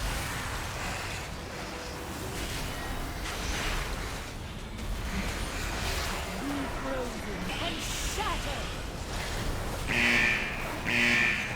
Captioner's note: buzzing